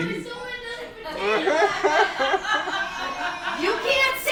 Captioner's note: laughing